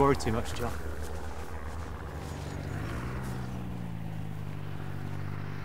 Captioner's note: aircraft engine rattling